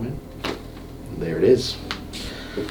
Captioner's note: neck cracks